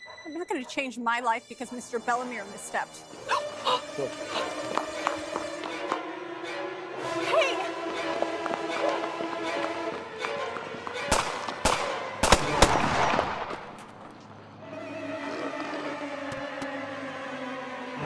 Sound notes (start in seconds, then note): 3.2 Eleanor gasping; 11.0 gunshots popping; 14.4 dramatic music